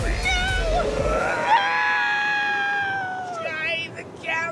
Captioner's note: wind whistles